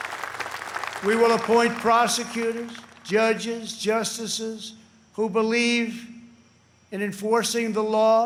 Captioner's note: applause